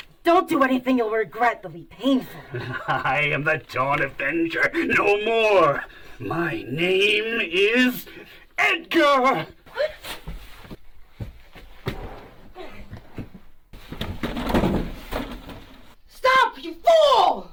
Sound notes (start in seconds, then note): 13.9 slides rattling